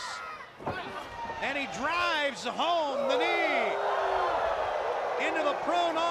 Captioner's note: crowd cheering